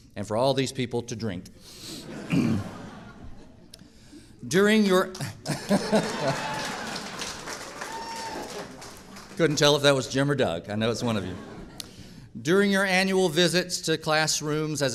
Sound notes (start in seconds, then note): 5.6 audience cheering and applauding